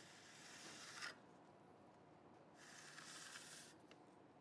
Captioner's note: edger rasping